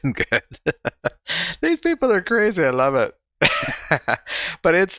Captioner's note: chuckling; laughing